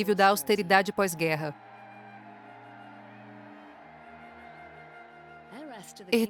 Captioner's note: crowd cheering; gentle music